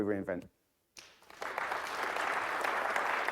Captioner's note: audience clapping